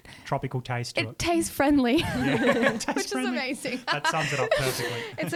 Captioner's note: laughs